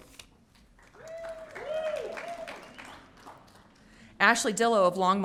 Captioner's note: audience cheering